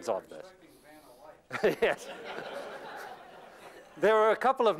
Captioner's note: laughter